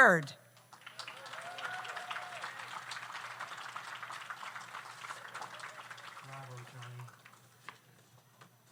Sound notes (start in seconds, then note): 0.6 audience applauds; 0.8 audience cheers